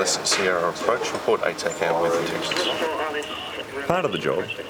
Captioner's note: background chatter